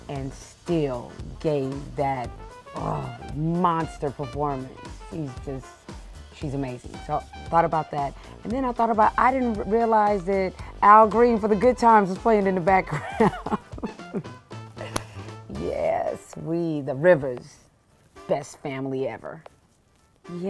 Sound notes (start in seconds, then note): 12.9 laughing